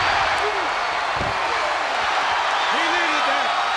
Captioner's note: crowd cheers